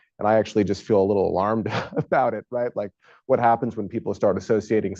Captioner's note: laughs